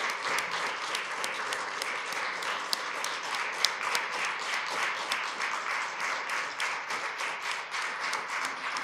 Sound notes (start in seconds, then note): 4.9 applause